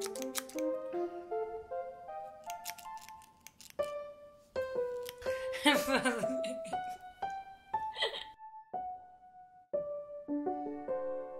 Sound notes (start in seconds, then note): 5.7 laughing